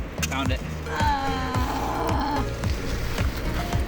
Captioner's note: audible disappointment